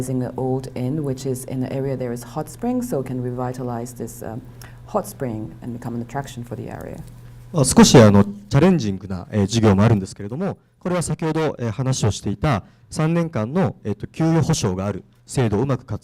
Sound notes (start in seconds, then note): 7.8 speaking foreign language